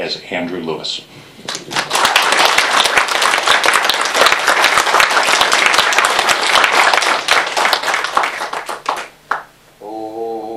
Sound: applause

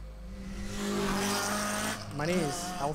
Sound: angy car noise

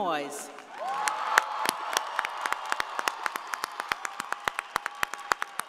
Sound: audience applauding

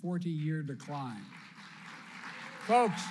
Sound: applause

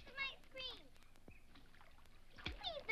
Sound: water splashes

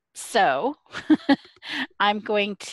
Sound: laughs

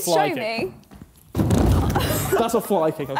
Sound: chair bangs

